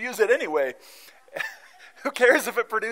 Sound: laughter

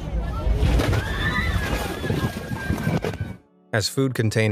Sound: people yelling

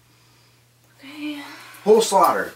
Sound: sighs

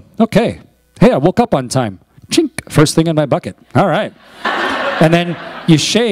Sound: laughter

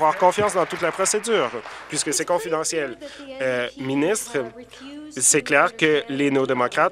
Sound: applause

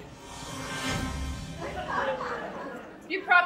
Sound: dramatic music; audience laughing

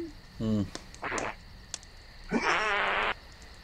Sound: flatulence

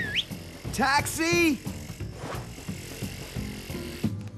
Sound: whistling

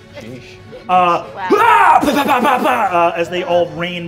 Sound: imitates battle and blows

